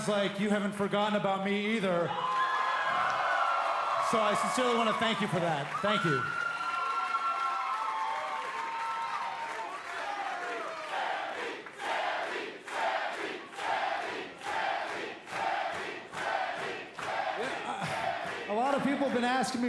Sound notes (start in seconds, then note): 3.6 cheers & applause; 8.4 cheers & applause; 12.1 fans chanting